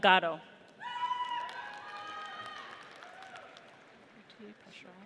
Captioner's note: audience cheers